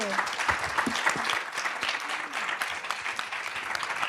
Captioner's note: applause